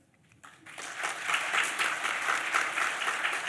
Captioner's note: applause